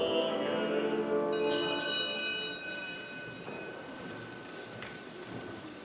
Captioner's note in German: Glocken läuten